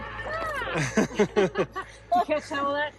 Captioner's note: laughing